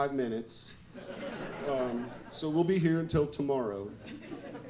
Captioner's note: audience laughs